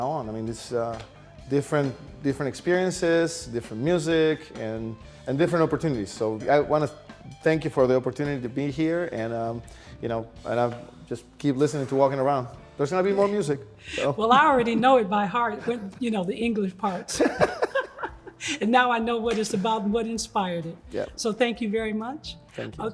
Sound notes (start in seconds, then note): 16.9 laugh